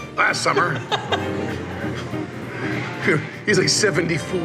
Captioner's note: laughs